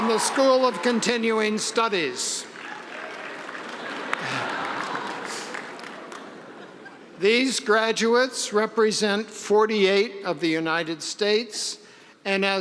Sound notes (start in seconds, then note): 0.0 cheering; 3.4 audience applause; 3.8 laughing